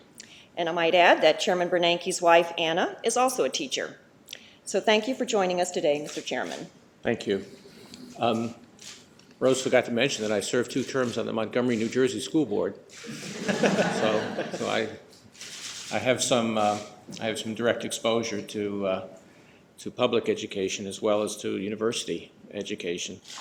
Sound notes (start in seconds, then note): 13.0 laughter